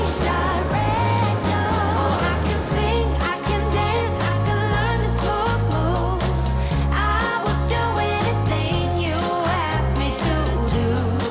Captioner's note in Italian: Applauso